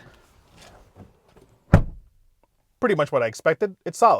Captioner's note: closing door muffled sound